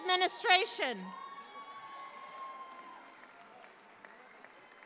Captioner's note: audience applauds